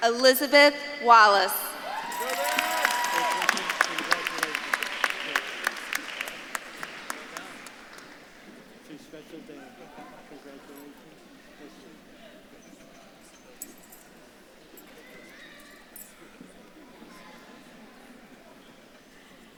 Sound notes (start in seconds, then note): 4.3 speaks faintly; 12.2 audience chattering